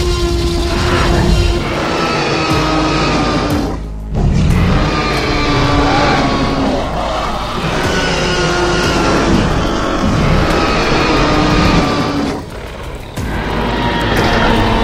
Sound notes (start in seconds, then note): 0.0 T-Rex Roar Sounds; 2.3 spinosaurus and T-Rex Roaring Sounds